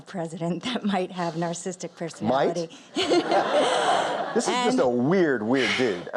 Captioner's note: incredulous tone